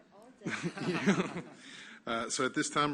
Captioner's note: laughter